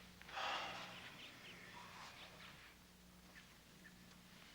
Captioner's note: Casey sighs